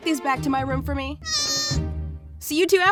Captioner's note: affirmative goat noise